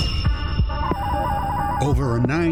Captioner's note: dialing up